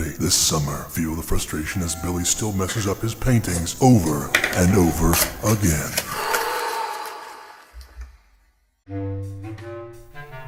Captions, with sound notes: This summer feel the frustration as Billy still messes up his paintings over and over again. (EXHALE)